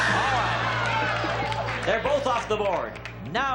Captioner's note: applause and cheering